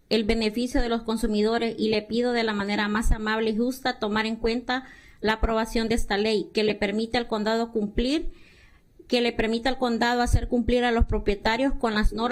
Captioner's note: speaking spanish